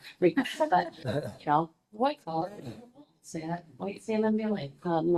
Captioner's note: group laughing